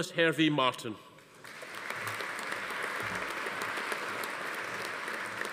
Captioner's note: audience applauding